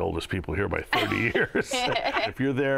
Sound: laughter

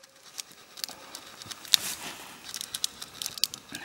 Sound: tool scraping

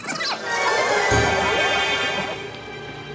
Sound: suspenseful music; nanoporter whirring

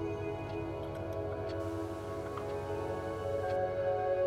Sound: TV on/off

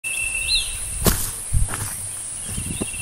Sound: footsteps

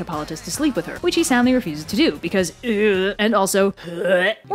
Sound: hurl

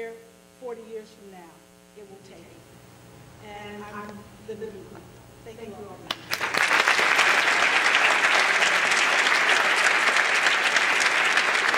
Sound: applause

